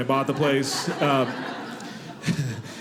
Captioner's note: audience laughing